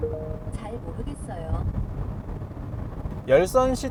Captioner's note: digital sound: Did not understand